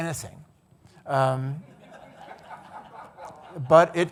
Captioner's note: audience laughing